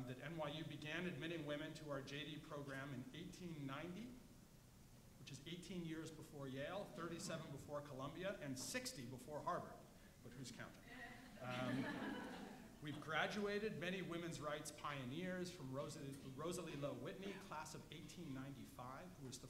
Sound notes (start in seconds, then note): 11.4 audience laughs